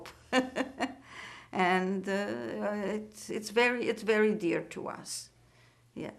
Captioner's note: laughing